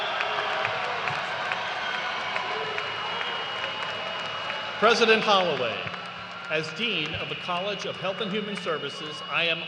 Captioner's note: cheers and applause